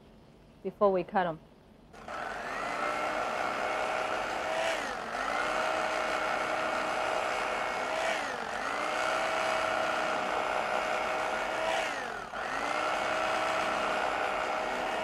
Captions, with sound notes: before we cut them. (electric knife sound)